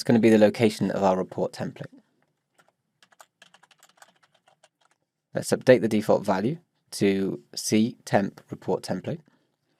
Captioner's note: typing